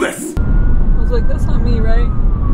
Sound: siren wailing

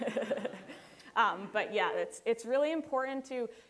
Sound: laughter

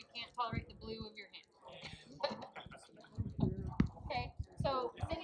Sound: laughing

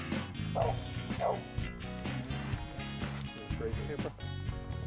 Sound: dog barking

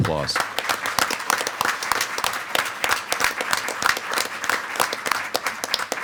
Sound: board members and attendees applaud

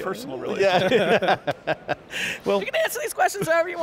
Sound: all laughing

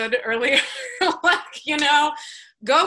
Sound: laughs

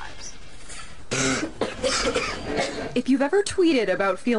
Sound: coughing and sneezing

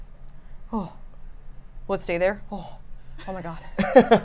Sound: sighs; laughs

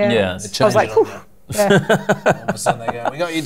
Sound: laughter

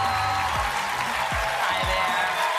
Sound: applause

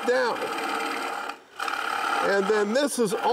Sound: chisel scrapes

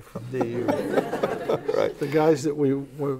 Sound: laughs

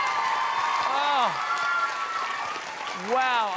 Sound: applause

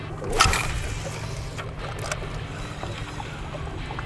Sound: reel spinning

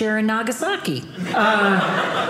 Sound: audience laughing

